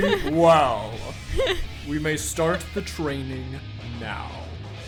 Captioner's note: laughs